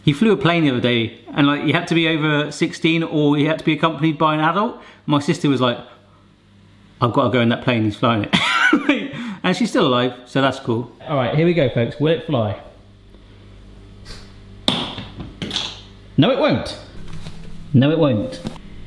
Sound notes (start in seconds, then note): 8.4 laughs